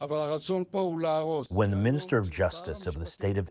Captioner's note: through translator